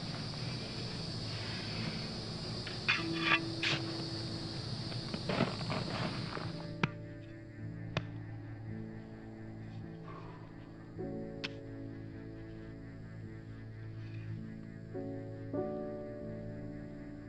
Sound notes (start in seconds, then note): 7.3 shovel thudding; 12.0 gentle piano music